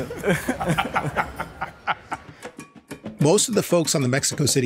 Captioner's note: laughing